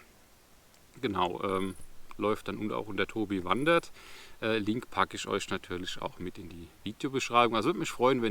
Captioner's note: only in German